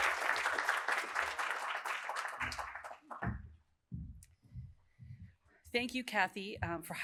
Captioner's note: applause